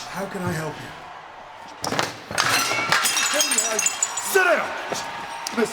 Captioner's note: objects clattering